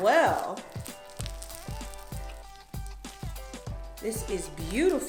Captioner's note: floam slime crackles